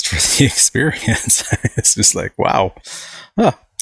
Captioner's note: chuckling